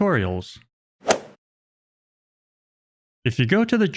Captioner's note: golf ball hit sound effect